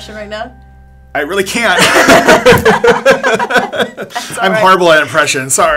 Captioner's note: laughing